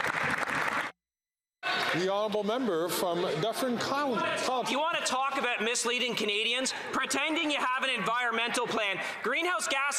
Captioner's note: some Applause